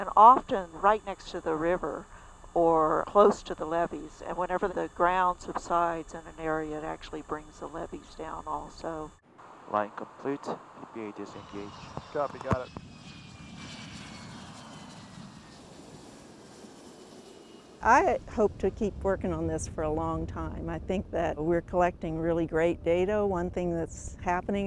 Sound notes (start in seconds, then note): 13.7 airplane landing